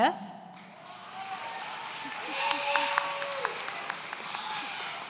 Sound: audience cheering

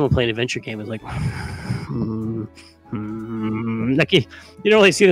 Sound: grumps and grumbles

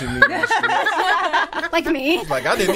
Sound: all laughing

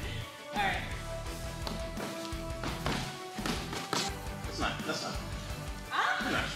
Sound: punching

